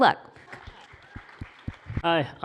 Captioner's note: applause